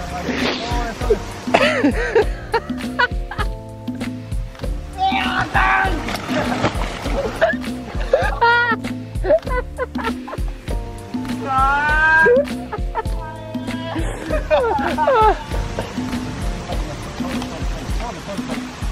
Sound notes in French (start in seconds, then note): 1.5 Rires; 7.3 Eclats de rires